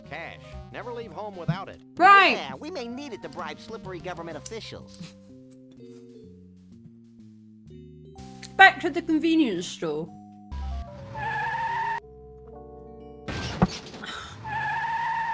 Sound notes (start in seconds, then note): 10.6 tyres screeching